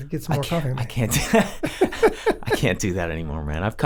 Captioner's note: both laughing